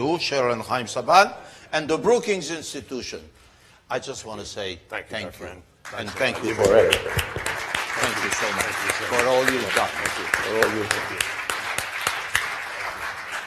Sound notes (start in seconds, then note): 7.2 applause; 12.0 applause